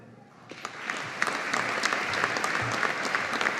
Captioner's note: audience applauding